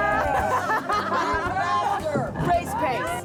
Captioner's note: group laughing